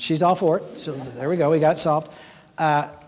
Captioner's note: audience laughing